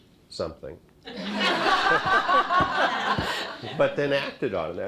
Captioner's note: laughter